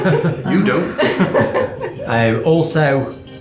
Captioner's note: laughing